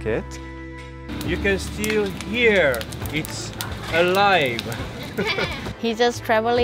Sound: laughs

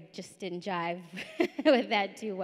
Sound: chuckles

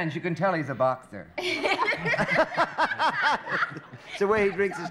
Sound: laughter

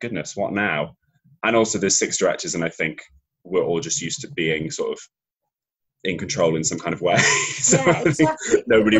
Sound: laughs

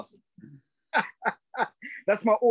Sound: laughs

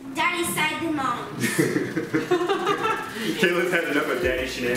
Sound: laughing

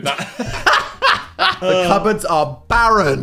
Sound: both laughing

